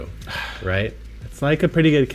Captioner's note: sighs